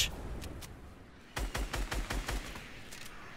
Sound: explosions; gunfire

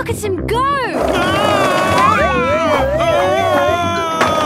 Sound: shouting

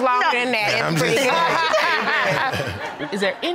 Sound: laughing

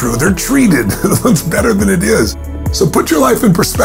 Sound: laughs

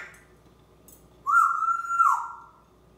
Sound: whistling

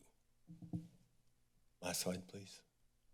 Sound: mic thuds

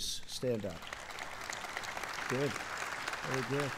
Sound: applause

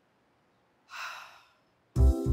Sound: sighs; light music

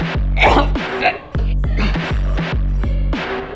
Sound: Catherine choking; malevolent music continues

